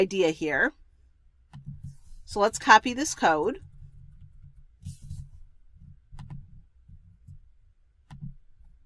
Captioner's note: pause